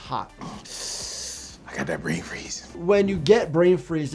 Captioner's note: hisses